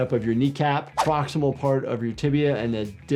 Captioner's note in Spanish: gráficos silbantes